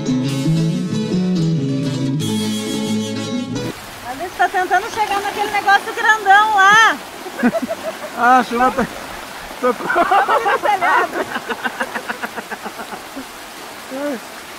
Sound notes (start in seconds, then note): 3.7 sound of heavy rain; 10.6 laughter; 13.1 laughter